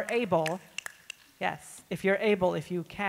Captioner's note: snapping fingers